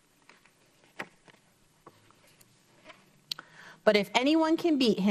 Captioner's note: paper rustles